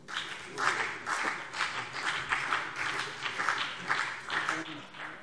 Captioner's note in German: Vereinzelter Beifall CDU und BÜNDNIS 90/DIE GRÜNEN